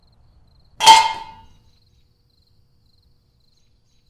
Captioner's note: clanging